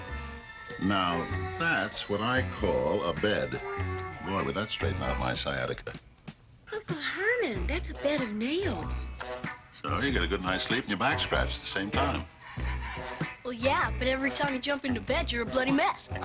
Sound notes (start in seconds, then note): none